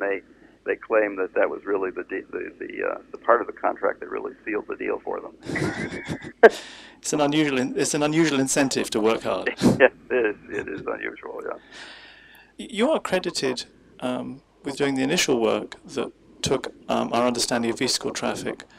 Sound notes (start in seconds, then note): 5.4 laughs